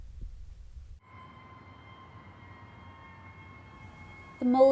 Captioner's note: city ambiance